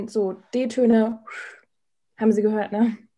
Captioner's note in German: pfeift